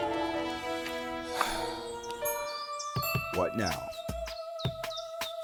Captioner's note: out of breath